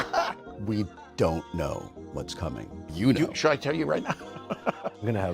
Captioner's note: laughter